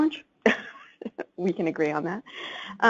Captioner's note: laughs